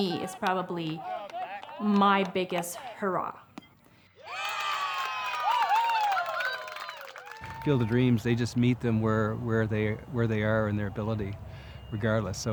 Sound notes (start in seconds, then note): 3.7 baseball hit; 4.2 cheers